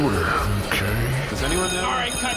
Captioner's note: sound stage bell rings